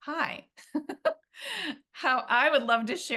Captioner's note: laughs